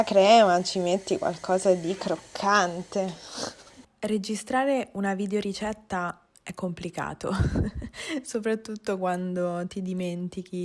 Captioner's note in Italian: sbuffare